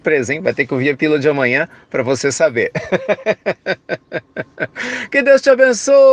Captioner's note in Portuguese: risos